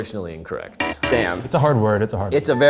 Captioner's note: buzzer resounding